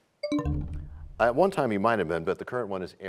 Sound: bell chimes, time expires

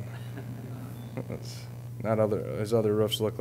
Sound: audience chuckling

